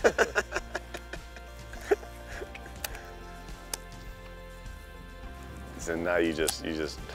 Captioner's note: laughter